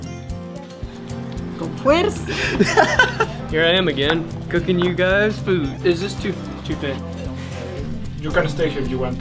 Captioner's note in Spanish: riendo